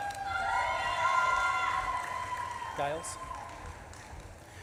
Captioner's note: audience claps and cheers